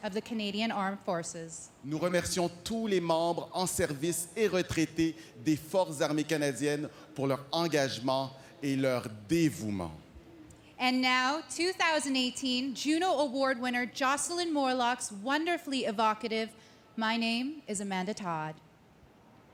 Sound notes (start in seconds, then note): 6.2 speaking french